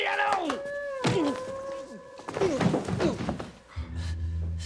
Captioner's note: bodies thud